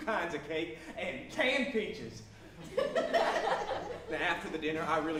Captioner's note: audience laughs